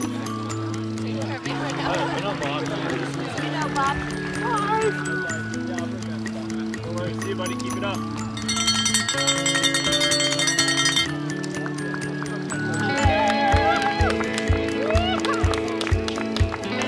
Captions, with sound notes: - Hi! - See ya, buddy, keep it up. (noisemaker) (cheering and applause)